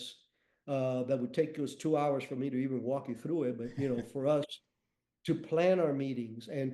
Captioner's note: chuckles